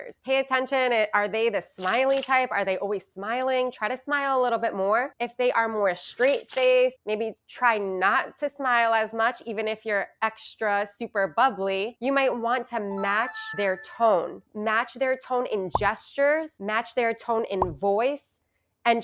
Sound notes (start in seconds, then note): 1.8 camera clicking; 6.2 camera clicking; 12.9 chimes ringing